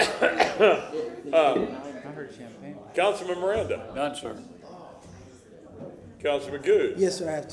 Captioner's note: laughter